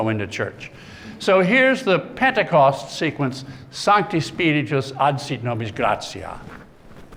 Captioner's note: speaking latin